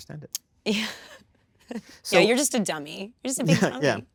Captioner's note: chuckles